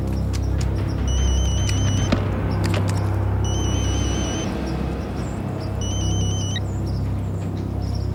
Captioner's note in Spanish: Suena el teléfono